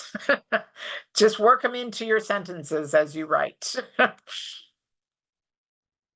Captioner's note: chuckles; chuckles